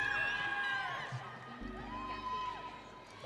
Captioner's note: audience cheering